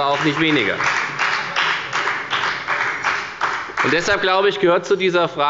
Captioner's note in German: Beifall bei der FDP